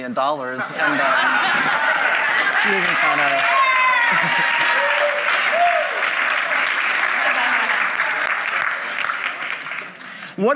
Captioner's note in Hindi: वाहवाही